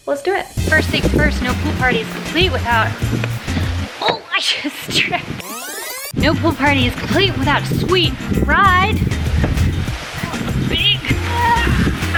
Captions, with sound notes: Let's do it. First thing's first, no pool party is complete without... Oh I just tripped. No pool party is complete without a sweet ride. (grunting)